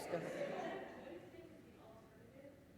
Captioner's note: laughing